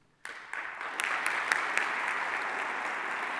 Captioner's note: applause